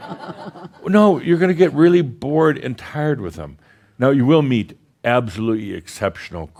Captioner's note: some laughter